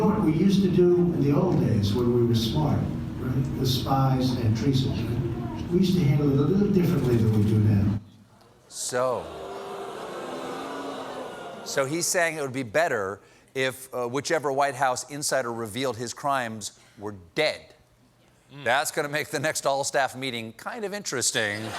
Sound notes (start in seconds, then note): 12.0 audience reacts